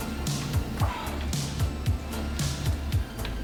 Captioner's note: sigh